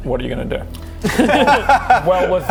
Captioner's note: laughs